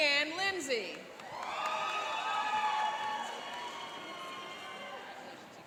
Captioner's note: cheering and applauding